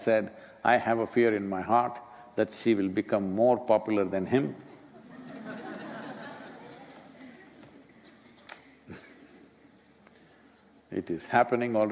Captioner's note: laughter